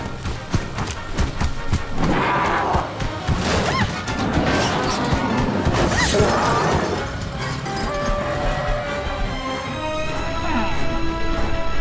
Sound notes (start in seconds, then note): 0.0 quick heavy footsteps; 2.2 roars; 3.9 woman screams